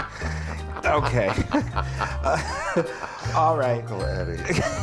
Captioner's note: laughs